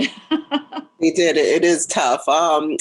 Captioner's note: laughs